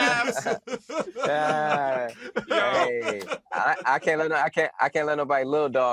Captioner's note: laughs